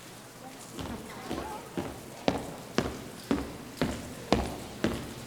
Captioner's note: footsteps thudding